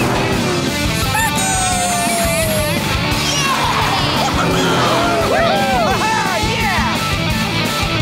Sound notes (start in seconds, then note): 3.0 cheering